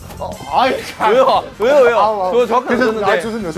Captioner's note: tennis balls caught